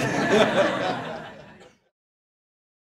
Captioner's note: laughter